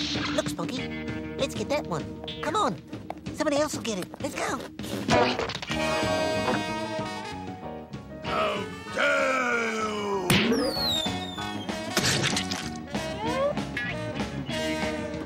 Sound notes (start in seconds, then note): 6.0 bump; 11.9 splat